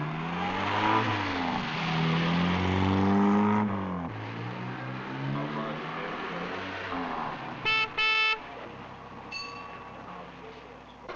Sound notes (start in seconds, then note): 7.6 car horn honking; 9.3 bell ringing